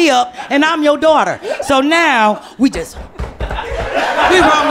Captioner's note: stomping